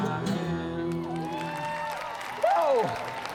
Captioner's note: cheers, applause